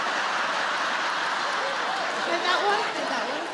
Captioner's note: audience laughs